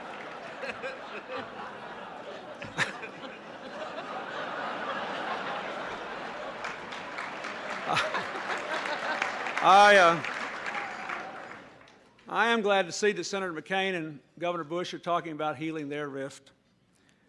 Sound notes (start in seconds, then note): 0.0 laughter; 0.0 applause